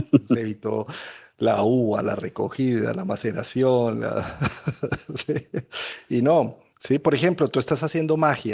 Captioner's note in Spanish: risas